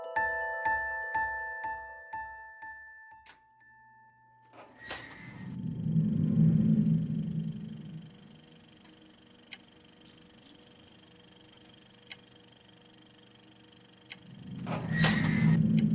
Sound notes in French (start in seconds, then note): 3.7 projecteur de film qui tourne